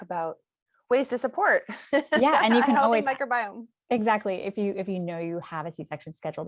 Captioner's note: laughs